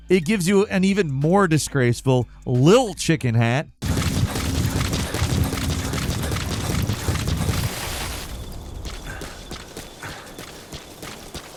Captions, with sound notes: it gives you an even more disgraceful little chicken hat. (feet stomping) (mysterious music)